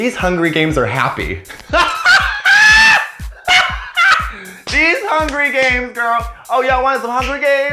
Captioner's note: cackling laughter